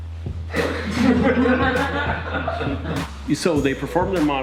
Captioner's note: laughter